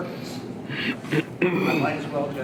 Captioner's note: clears throat